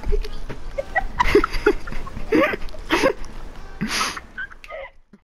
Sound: laughter

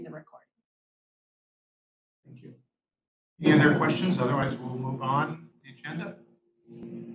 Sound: electrical Humming noise

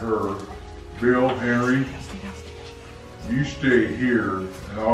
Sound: dad whispering

